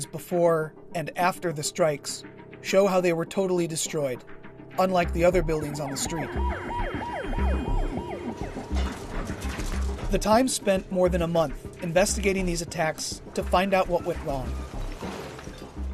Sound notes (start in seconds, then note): 5.6 siren